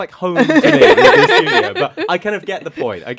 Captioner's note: laugh